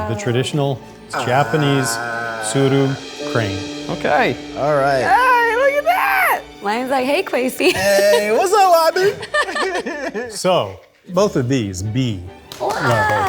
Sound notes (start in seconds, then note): 7.6 laughing; 12.4 group clapping